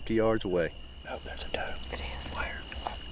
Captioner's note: whispers